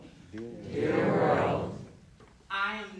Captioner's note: crowd